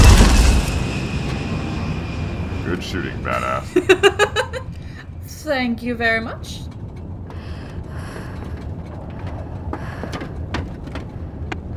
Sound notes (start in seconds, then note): 3.2 laughs; 7.3 nervous breathing, footsteps coming up; 11.5 tapping on the back of the helmet